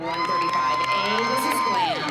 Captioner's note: cheering